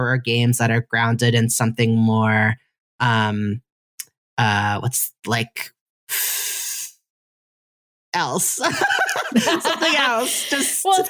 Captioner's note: laughs